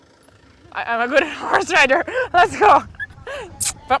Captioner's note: laughs